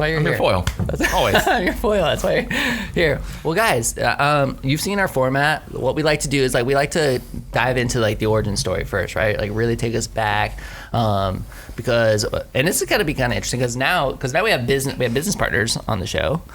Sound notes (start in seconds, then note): 0.9 laughing